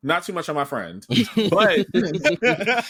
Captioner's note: laughter